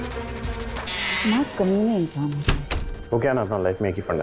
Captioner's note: Door opens and closes